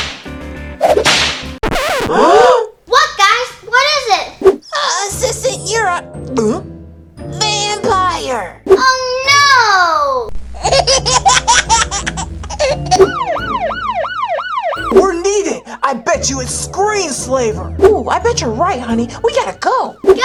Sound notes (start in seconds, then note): 0.1 squeaking sound and gasps; 10.6 giggles; 12.9 emergency siren